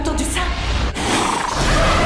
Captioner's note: cliché noises of a evil monster